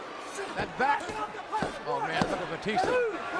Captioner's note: ref yelling